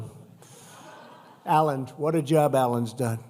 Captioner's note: laughter